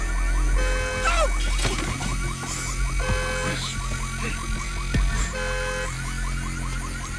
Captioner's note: Abby shrieks; glass shatters; car alarm blares